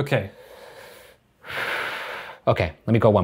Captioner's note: breathes heavily